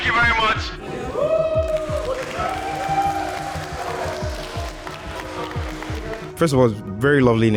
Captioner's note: crowd cheering